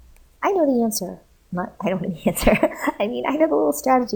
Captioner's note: chuckling